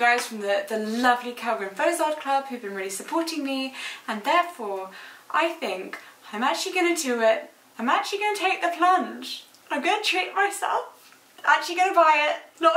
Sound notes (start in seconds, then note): none